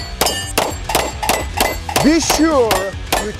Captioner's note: targets clinking; pistol firing